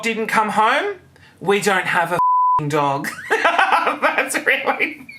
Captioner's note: laughing